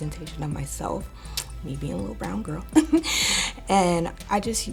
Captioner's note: chuckling